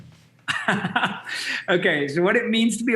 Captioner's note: laughs